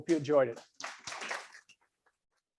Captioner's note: audience applauds